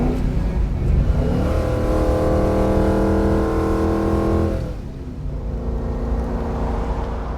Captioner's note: engine revs